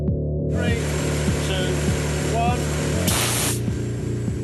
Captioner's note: air hisses